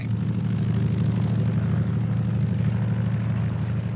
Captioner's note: engine revs